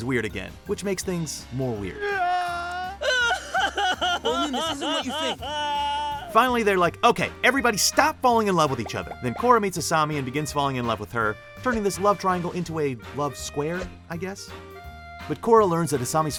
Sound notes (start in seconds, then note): 2.0 crying